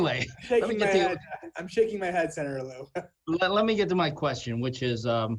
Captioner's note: laughter